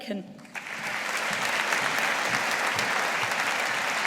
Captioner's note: audience applauding